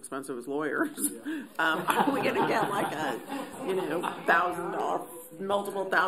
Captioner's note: laughter